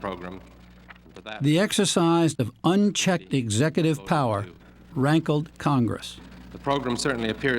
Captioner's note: voice-over